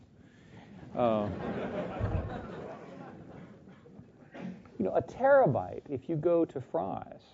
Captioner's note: laugh